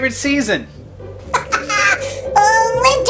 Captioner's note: laughing